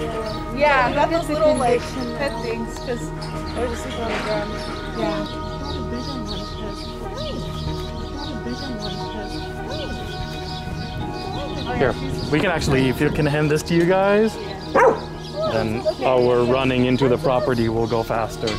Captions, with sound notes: Yeah. Look at the condition they're in. Yeah we got those little like, pet things cause they were just sleeping on the ground. Yeah. They probably breed them like this. Hi. They probably breed them like this. Hi. Hi. Here we can actually, if you can, hand this to you guys. Yeah. [Bark] It's okay. Then, our running into the property will go faster.